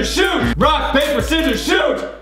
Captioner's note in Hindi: बजर